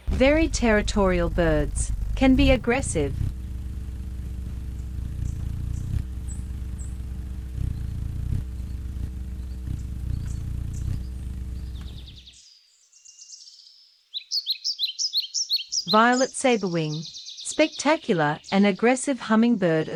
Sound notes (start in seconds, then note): 3.5 bird's wing flapping; 3.5 birds chirping